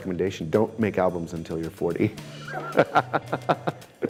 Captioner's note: chuckles